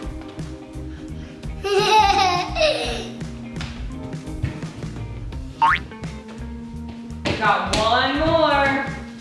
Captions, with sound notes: - (giggles) (boing) - You got one more.